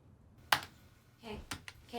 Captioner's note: keyboard keys clacking